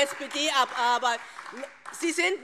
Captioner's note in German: Beifall SPD